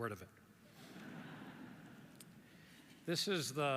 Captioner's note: audience laughs